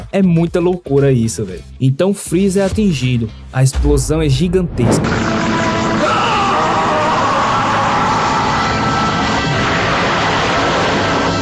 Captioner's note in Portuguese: grito